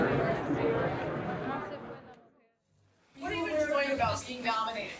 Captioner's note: crowd chatting